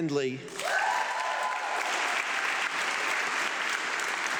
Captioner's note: audience clapping